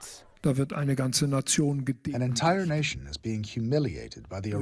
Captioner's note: through translator